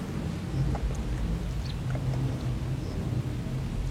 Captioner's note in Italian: cinguettii